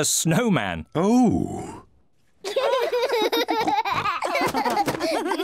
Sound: all giggle

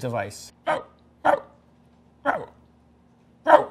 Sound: barking

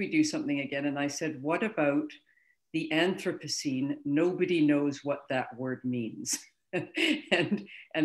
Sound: chuckles

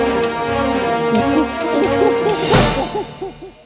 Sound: monkey noises

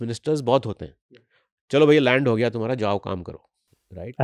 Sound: speaks hindi

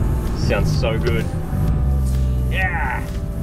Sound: engine revs

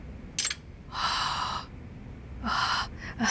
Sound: sighs

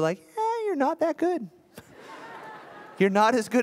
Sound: laughter

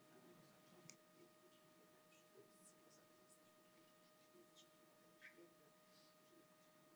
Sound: foreign language

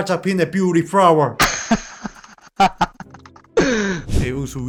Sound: laughter

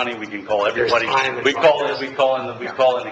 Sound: members talking at once

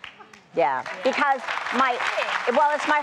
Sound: applause

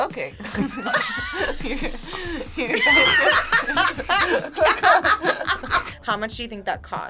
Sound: group laughs; laughs

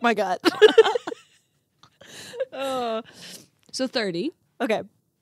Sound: group laughs

